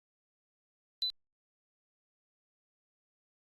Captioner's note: click